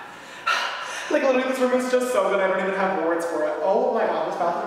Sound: whispering; exhales

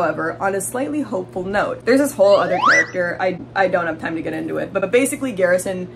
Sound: slide whistle

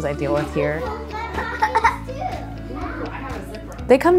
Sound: indistinct chatter

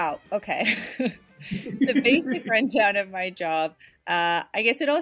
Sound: laughs

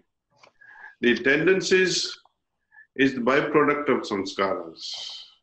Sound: impressions

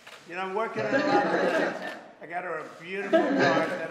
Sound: laughter

